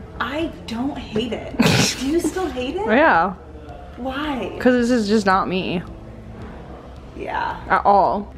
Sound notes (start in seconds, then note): 1.8 scoffs